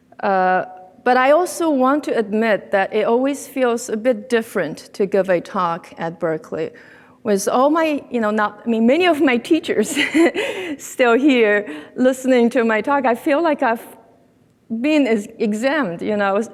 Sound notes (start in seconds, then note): 9.9 laughs